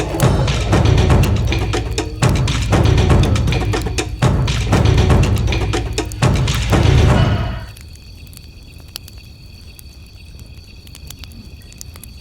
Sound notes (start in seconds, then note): 1.8 dramatic drum music continues; 8.3 fire crackling